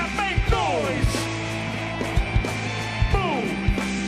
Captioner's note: loud cheering